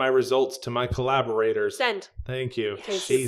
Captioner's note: annoyed tone